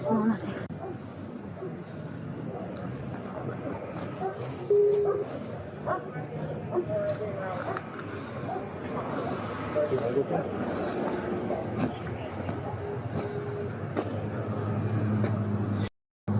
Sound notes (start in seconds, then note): 6.7 radio chatter